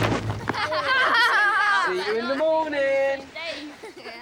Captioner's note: boys laughing